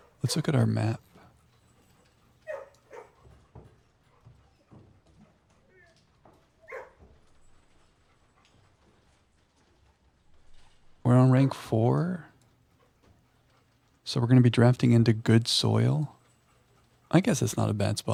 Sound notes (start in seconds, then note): 1.6 dog barking